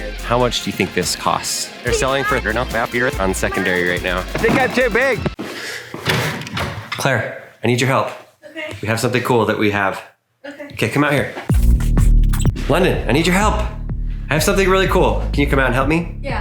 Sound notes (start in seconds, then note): 5.9 door opening; 11.5 upbeat music